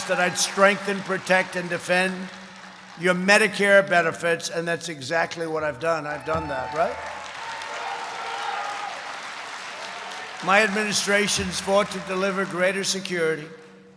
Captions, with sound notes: that I'd strengthen, protect, and defend your Medicare benefits, and that's exactly what I've done. I've done that, right? (applause) My administration has fought to deliver greater security,